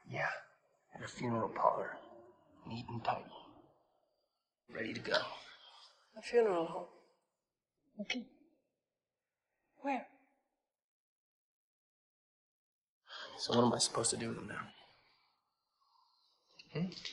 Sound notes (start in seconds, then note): 7.9 foreign language